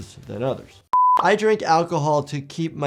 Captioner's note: screen beeping